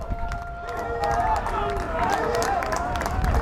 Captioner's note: crowd applauds